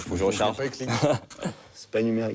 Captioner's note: laughter